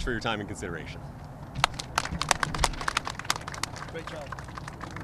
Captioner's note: applause